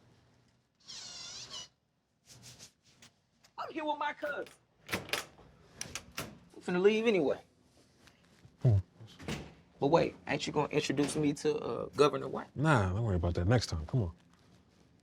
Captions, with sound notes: (dispenser whirs) - I'm here with my cousin. I'm finna leave anyway. - Come on, let's go. - But wait, ain't you going to introduce me to Governor White? - Nah, don't worry about that. Next time, come on.